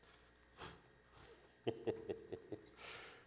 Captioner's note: laughter